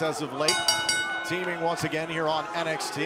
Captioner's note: bell ringing